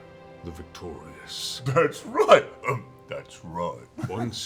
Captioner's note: coughs